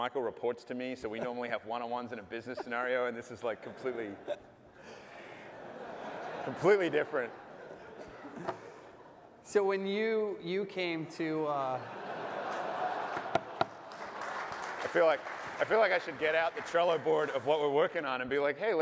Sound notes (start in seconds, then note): 4.8 laughter; 11.7 laughter; 12.9 applause